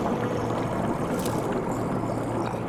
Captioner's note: gurgling